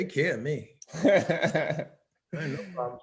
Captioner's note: laughing